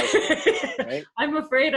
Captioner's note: laughter